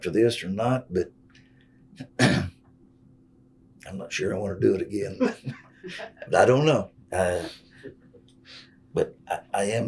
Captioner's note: laughter